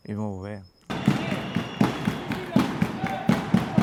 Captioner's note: fans cheering with drums